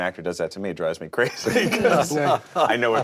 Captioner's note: all chuckles